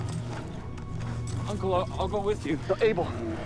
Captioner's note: more growling